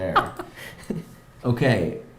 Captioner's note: laughs